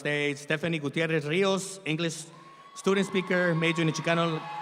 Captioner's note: audience applauds